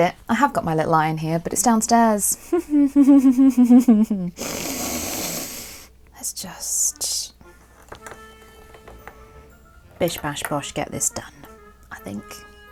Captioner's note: sarcastic giggling